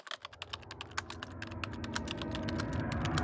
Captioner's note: typing